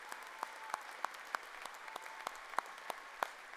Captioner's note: cheers and applause